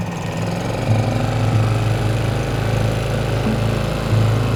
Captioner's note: engine rumbling